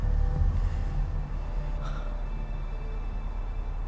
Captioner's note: gasps